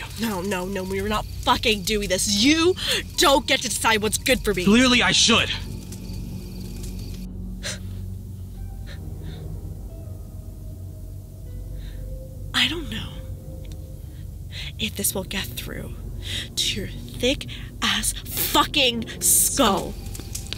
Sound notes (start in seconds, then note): 7.5 scoffs